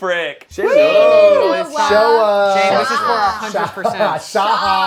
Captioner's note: overlapping chatter